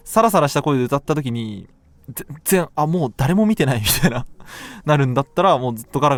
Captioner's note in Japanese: 笑い